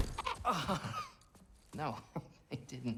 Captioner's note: laughing; laughs